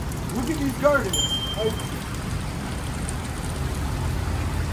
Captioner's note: bell dings